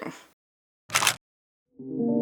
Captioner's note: camera shutter; instrumental Music